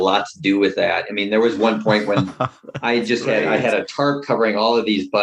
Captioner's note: laughter